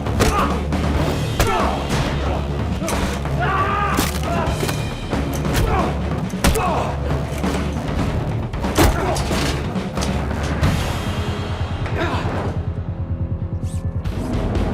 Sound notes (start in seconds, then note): 1.3 men grunting; 3.9 bones cracking; 6.4 head slamming; 8.8 dramatic rock music